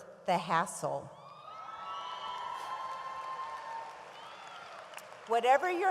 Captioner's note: audience applauds and cheers